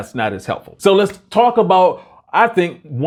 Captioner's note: claps